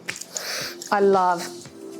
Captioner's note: inhaling